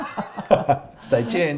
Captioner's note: laughs